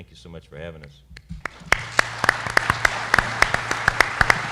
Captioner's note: applause